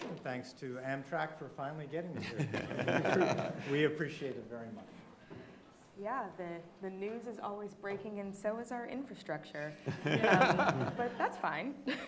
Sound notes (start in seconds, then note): 2.2 audience laughing